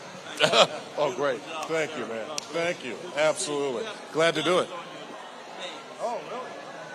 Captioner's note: conversing with audience members